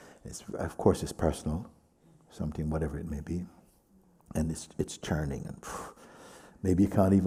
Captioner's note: exhales